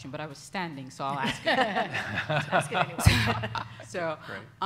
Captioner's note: all laughing